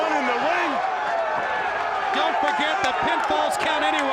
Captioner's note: crowd cheering